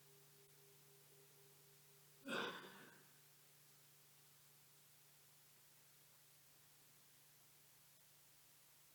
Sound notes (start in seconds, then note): 2.2 attendee coughing